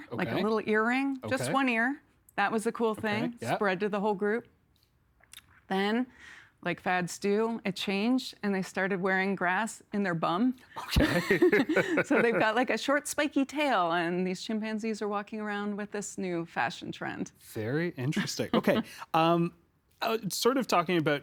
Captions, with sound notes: Okay, okay. Like a little earring, just one ear. That was a cool thing. Okay, yeah. Spread through the whole group. Then, like fads do, it changed and they started wearing grass in their bum. Okay. (Both laughing) So, they've got, like, a short spiky tail, and these chimpanzees are walking around with this new fashion trend. Very interesting. Okay, sort of talking about--